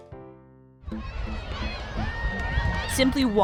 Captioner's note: crowd cheering